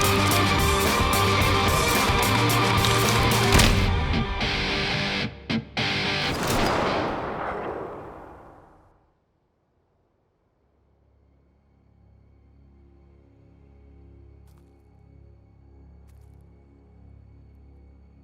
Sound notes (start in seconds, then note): 2.8 neck cracks; 6.2 gun fires; 11.1 tense music